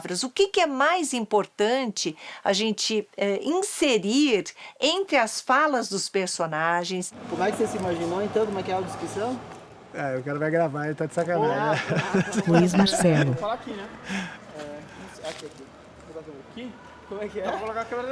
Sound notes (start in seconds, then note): 11.6 mild laughter